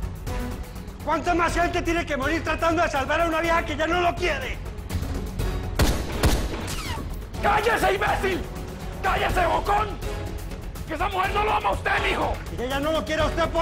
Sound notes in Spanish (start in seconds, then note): 7.3 Disparos